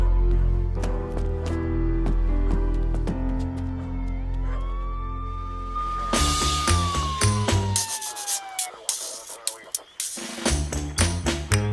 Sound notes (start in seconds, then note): 0.1 dog barking; 4.4 siren wailing